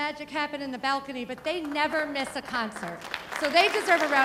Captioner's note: audience applauding